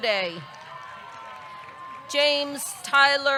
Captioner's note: audience clapping; audience cheering